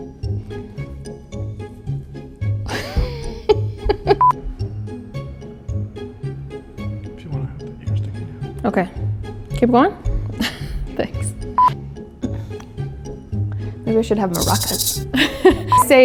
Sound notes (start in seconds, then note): 0.2 cheerful music; 2.7 laughs; 11.4 laughs